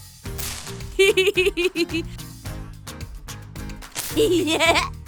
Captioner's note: laughs; laughs